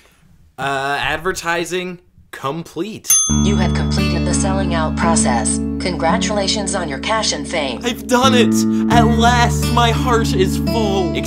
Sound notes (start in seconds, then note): 3.1 ding; 3.5 robotic voice